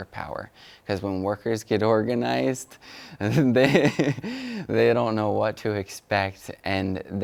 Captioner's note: laughs